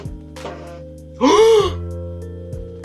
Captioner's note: inhale